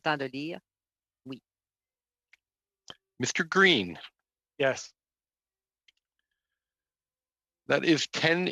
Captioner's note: speaking French